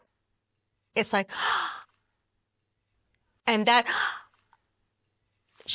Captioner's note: gasps